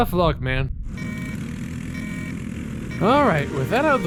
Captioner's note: kart field restarts